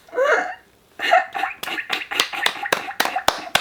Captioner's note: laughing; both clapping